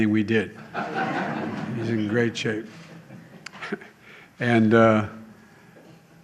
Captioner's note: laughter